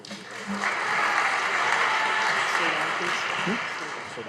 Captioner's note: audience applauding